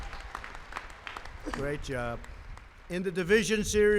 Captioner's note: applause